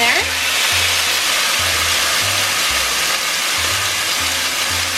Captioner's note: pan sizzling